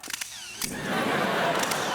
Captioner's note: camera shutter